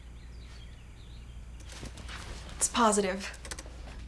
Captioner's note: birds chirping